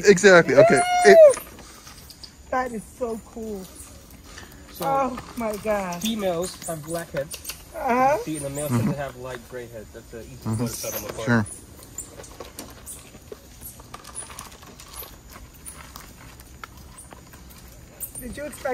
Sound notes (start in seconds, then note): 12.7 birds chirping; 15.7 monkeys scrambling